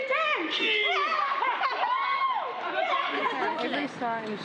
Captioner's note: girls cheer